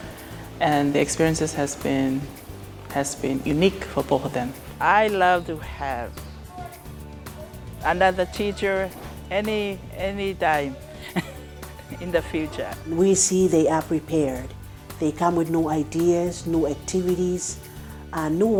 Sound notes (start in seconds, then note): 10.8 laughs